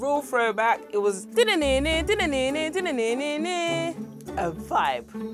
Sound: hums original tune

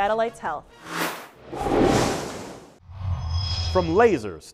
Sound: sound Effects

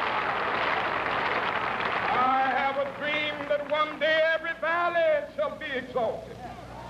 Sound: cheering and applause

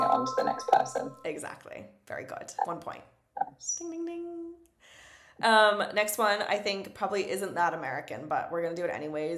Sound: ding ding ding

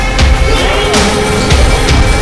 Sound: shouts of exclamation

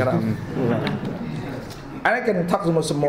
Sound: some laughing

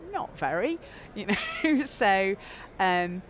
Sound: laughing

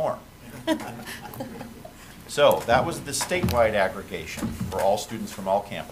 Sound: laughter

